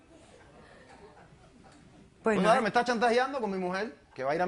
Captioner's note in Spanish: Risas